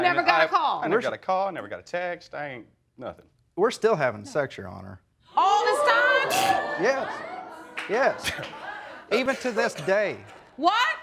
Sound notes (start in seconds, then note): 5.9 audience gasps; 6.7 snorts